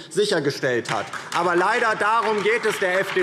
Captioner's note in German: Beifall DIE LINKE